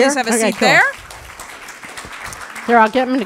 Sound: applause

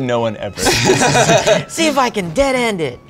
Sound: all laugh

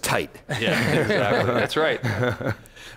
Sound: laughing

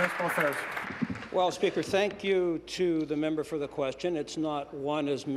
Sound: applause

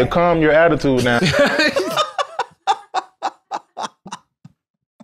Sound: both laughing

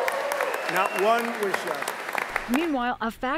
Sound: cheering and applause

